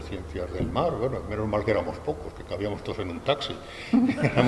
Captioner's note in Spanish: risas